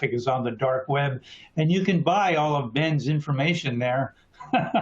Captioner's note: laughter